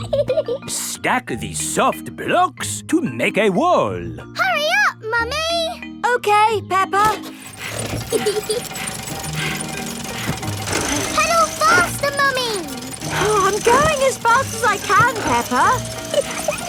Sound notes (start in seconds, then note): 0.1 laughs; 7.3 mummy pig panting; 8.0 peppa laughing